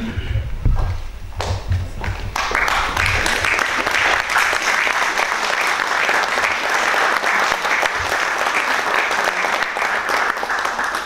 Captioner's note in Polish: oklaski